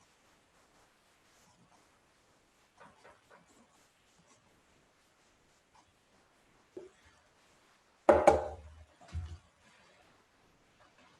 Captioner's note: silence